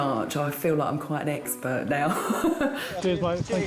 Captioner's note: laughs